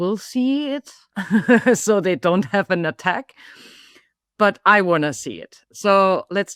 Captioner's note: laughs